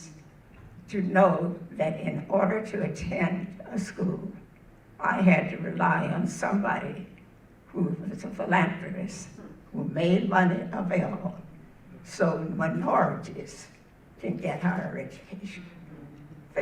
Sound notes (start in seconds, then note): none